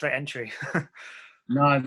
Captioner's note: giggling